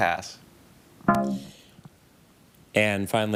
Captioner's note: bell dongs